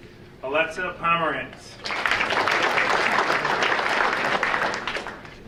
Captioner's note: audience applauding